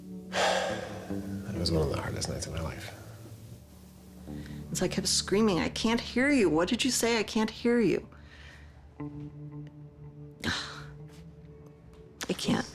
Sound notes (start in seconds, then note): 10.4 sighs